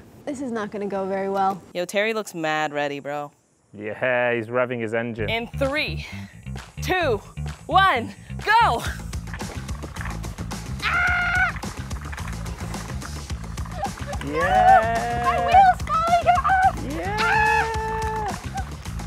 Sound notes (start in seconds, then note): 9.0 uptempo instrumental music; 10.8 screaming